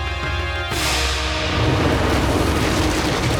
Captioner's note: whooshing